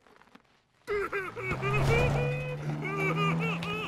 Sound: crying

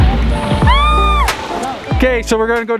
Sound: yelling

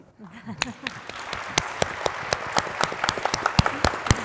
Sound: audience applauds

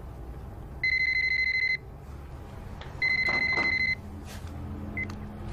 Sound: phone ringing

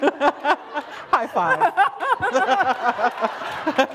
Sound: laughter

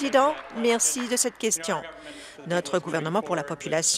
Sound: applause

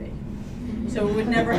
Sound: laughter

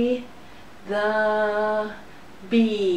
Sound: humming sounds; buzzing sounds

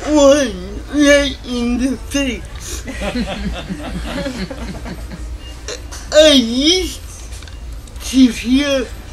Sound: laughter

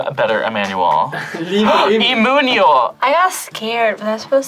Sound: laughs; gasps

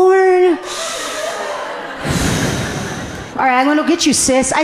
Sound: breathing deeply

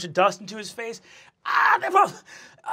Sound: shouts

